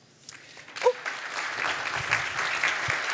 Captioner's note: applause